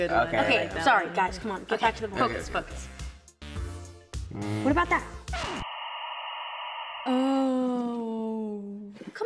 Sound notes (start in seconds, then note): 5.3 record scratches; 5.4 static